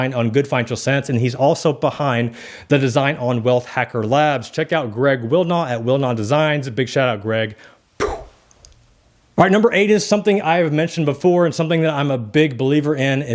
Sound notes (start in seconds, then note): 8.0 sighs